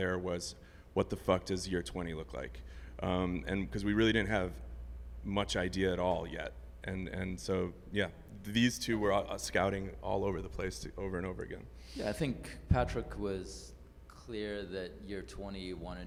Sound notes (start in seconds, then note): none